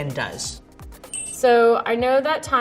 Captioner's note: countdown sound